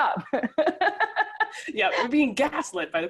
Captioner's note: laughing